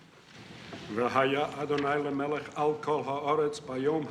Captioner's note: man speaking Hebrew